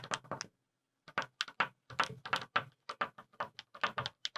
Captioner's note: pen tapping